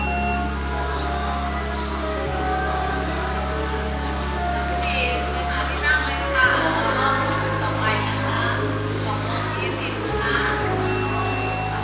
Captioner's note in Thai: ปรบมือ